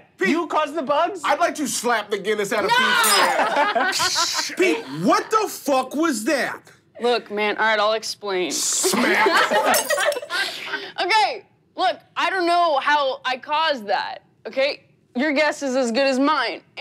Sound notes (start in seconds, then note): 2.7 laughing; 9.6 glass breaking